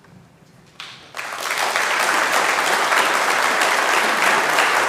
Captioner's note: congregation clapping